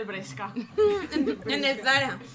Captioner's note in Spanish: risas